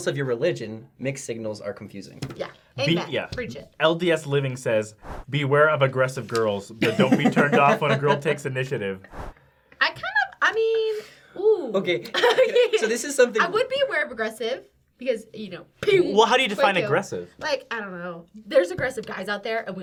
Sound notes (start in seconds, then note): 6.8 laughing